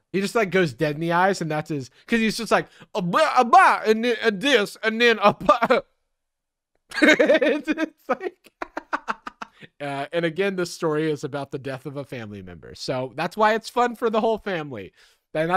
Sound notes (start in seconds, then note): 3.1 speaking vaguely southern gibberish; 6.9 laughing